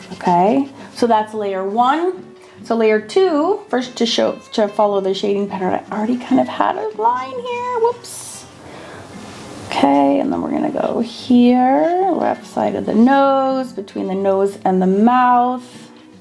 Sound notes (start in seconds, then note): none